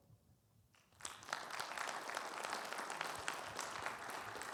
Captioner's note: audience applauding